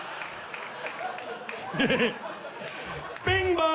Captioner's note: laughs